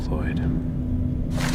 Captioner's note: paper rustling